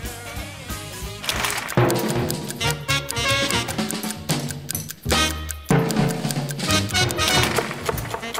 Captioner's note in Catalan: tic-tac